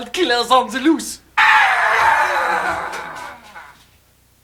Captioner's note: screams